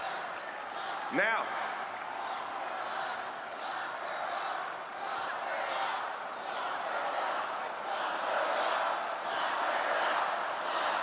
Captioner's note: cheering and applause